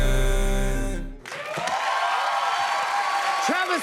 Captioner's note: cheers and applause